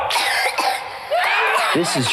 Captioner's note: child coughs